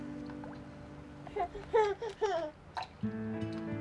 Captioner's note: laughing